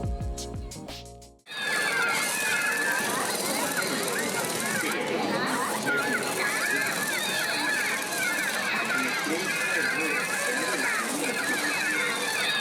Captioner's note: Screaming pikachu noises